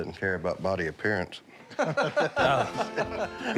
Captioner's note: laughter